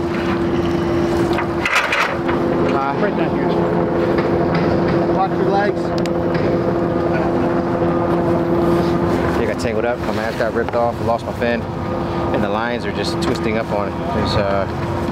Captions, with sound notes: (crew murmurs) I got tangled up. My mask got ripped off. I lost my fin, and the lines are just twisting up on.